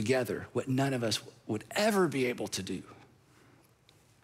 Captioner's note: none